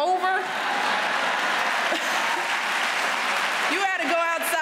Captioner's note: applause